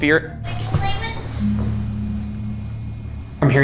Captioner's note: REM-Pod beeping